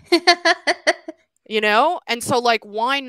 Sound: laughs

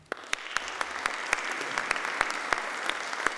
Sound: applauding

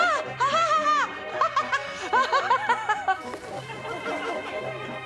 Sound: laughs manically

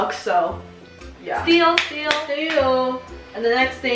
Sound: clapping hands

